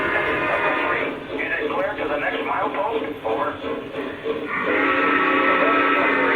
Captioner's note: voiceover; horn blares